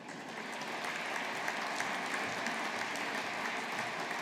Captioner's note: audience applauding